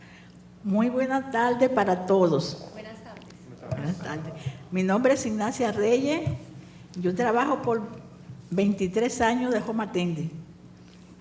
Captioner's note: speaking spanish